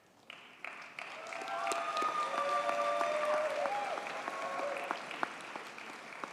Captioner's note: audience cheers and applauds